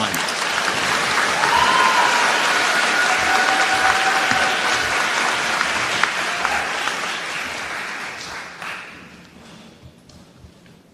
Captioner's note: applause